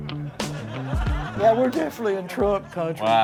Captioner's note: audience laughs